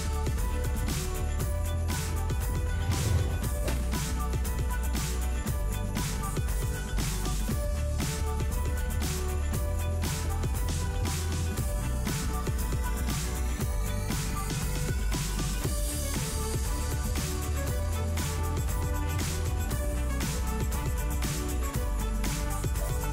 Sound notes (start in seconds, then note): 2.5 whoosh; 3.6 splat